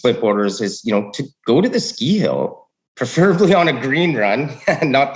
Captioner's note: laughs